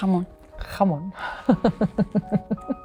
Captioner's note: Penelope speaking in foreign language; Olivia speaking in foreign language and laughing